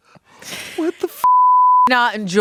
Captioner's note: beep